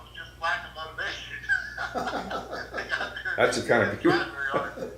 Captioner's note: laughs